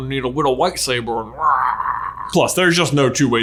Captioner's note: man growling